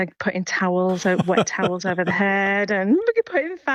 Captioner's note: laughs